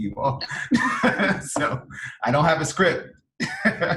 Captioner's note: laughs